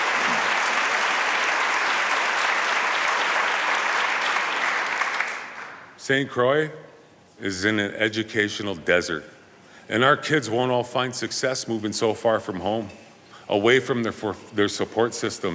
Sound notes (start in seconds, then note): 0.0 applause